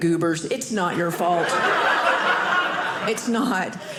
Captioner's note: audience laughing